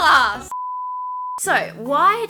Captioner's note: beep